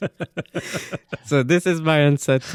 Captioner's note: laughing